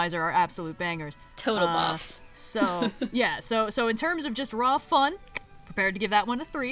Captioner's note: laughs; laugh